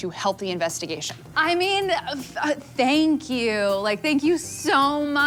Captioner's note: sarcastically